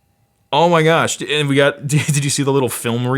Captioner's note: laughs